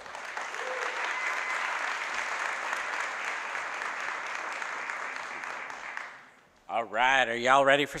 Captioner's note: applause